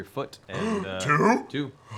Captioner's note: gasps